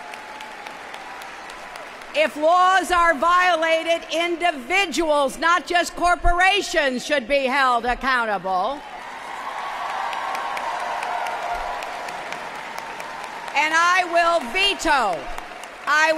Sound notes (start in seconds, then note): 2.0 applause; 14.1 applause